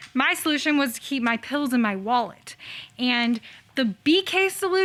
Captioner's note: none